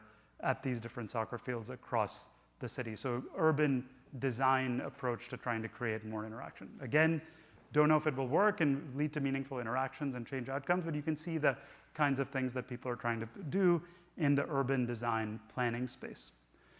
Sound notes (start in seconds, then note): none